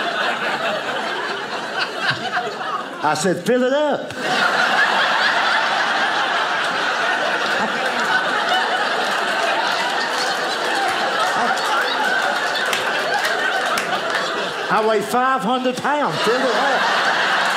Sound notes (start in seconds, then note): 0.0 audience laughing; 4.0 audience laughing